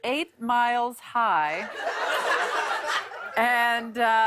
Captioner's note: laughter